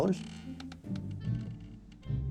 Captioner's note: chair creaks